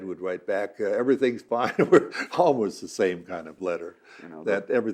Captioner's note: laughing